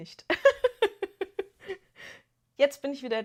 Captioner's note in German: gelächter